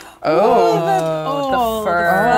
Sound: oohs

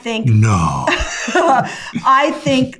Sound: laughs

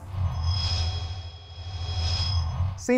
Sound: sound Effects

